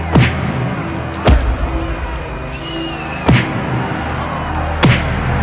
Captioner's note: crowd cheering and clapping